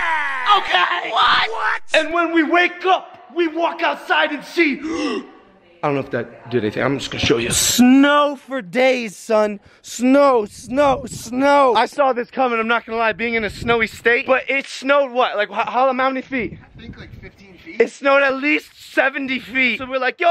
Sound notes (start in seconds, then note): 4.8 gasp